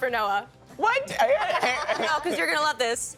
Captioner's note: laughing